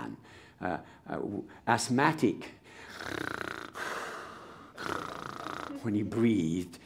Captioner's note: breathes loudly